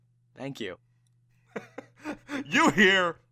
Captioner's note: laughter